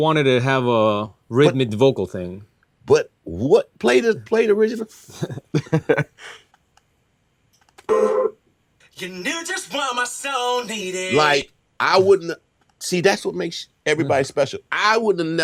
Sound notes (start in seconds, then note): 5.0 laughing; 9.2 singing